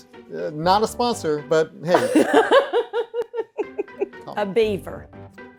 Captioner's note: laughing